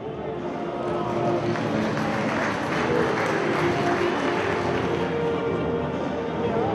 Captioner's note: ceremonious music; audience clapping